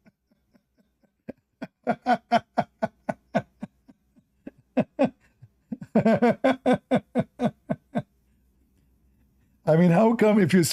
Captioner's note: Ketawa